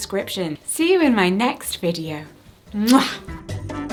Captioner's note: kiss; upbeat cheerful music